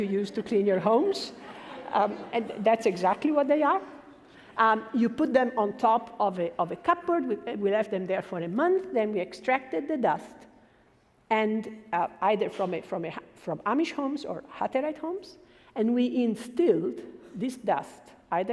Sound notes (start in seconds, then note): 1.4 laughing